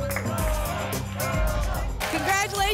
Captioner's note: applause and cheering cont